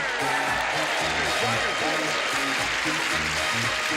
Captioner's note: audience cheers